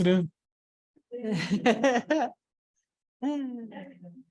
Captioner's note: laughter